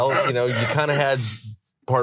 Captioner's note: laughs